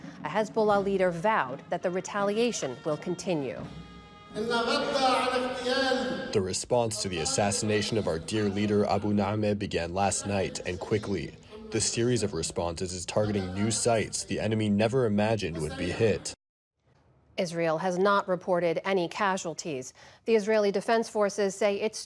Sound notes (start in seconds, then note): 6.6 through translator